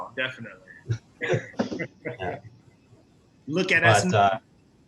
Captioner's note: laughs